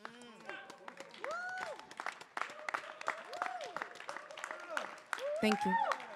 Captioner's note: audience cheering and applauding